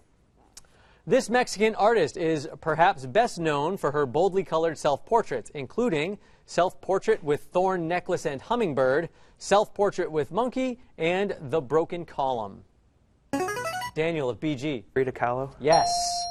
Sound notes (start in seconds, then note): 13.4 answer bell; 15.7 correct answer chime